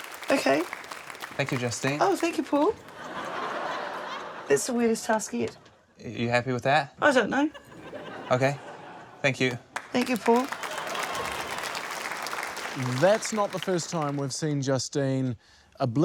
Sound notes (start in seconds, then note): 2.7 laughter